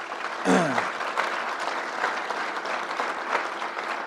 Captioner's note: crowd applauds